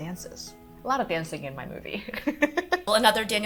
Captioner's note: laughs